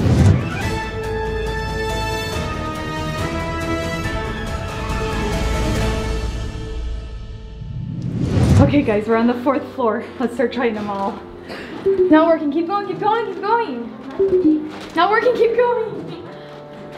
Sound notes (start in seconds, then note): 0.0 upbeat playful music; 14.1 door beeping